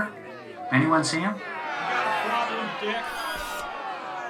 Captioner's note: crowd boos